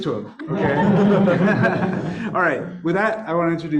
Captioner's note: audience laughs